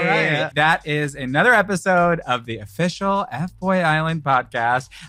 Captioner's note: all cheering